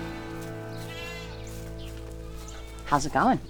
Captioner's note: goats bleating